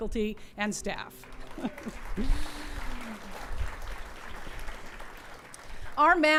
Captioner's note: clapping